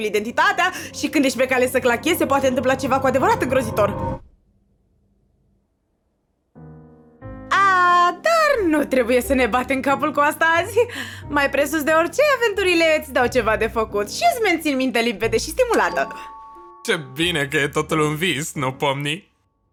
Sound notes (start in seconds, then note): 15.8 doorbell rings